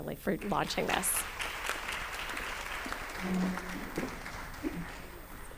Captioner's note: applause